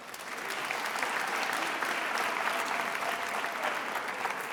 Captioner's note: attendees applauding